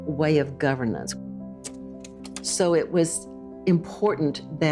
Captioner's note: slide projector clicks